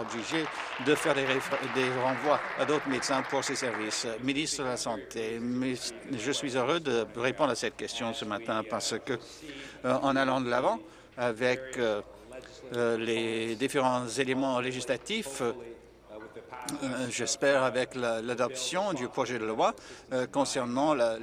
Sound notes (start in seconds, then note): 5.2 applause